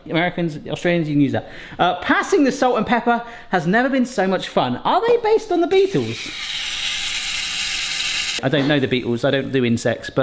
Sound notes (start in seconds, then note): 5.8 shaker whirring